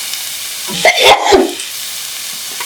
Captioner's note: sneeze